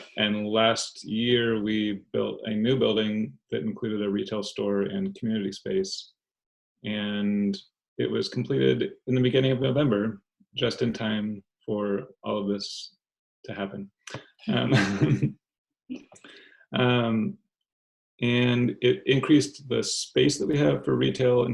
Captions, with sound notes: and last year, we built a new building that included a retail store and community space. And it was completed in the beginning of November, just in time for all of this to happen (laughs). And it increased the space that we have for retail